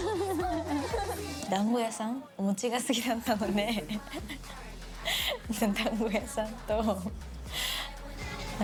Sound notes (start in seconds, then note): 0.0 laughing; 0.9 non-english speech; 3.5 speaking in foreign language